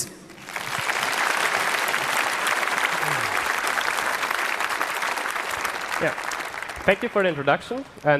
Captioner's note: applause